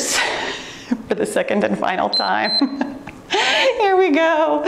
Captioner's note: timer beeps